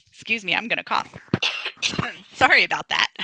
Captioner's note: coughs